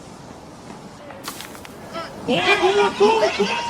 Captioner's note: ball taps; group yelling